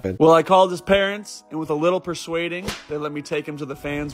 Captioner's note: slap